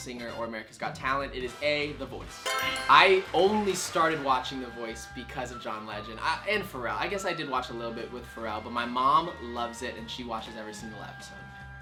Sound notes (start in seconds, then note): 2.4 crowd claps; 2.4 answer board chimes